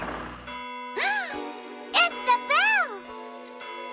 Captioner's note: bell Rings; gasps